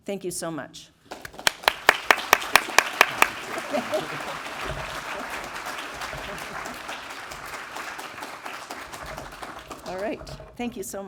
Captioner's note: applause